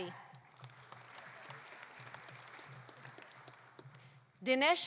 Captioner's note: audience applauding